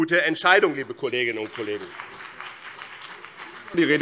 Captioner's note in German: Beifall BÜNDNIS 90/DIE GRÜNEN und vereinzelt CDU